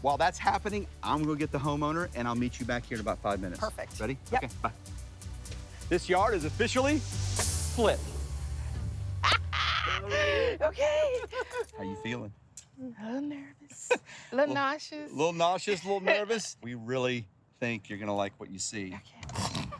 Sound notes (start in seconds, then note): 12.8 laughs